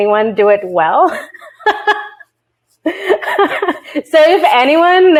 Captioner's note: laughs